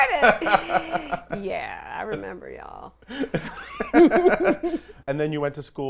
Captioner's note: laughs